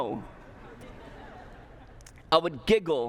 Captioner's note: laughter